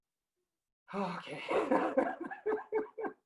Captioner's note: laughing